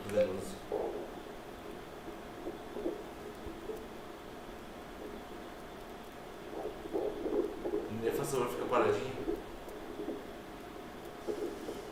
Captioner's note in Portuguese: batimentos cardíacos